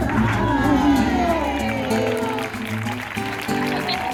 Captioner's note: cheering and applause